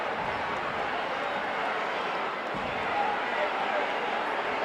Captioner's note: audience chattering